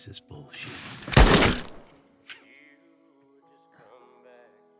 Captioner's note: pistol booming